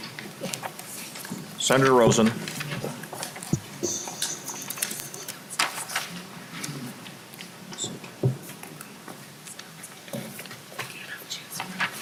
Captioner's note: gavel